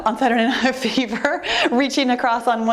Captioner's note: giggling